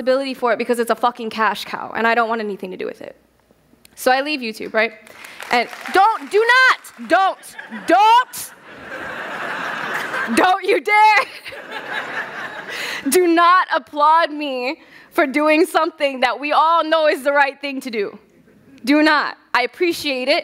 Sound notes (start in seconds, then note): 5.0 applause; 11.1 laughter